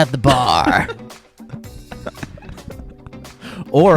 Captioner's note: laughs